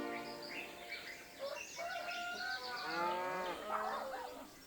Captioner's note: birds chirping